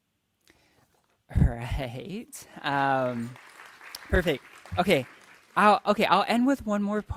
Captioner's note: audience applauding